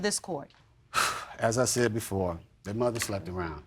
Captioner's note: sighs